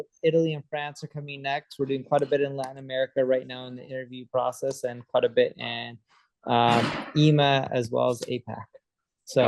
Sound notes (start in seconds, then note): 6.3 toys clanging